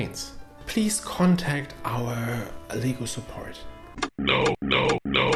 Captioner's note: high voice; robotic voice